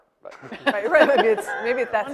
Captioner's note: laughing